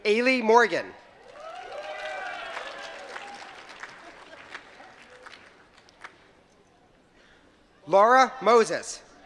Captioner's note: applause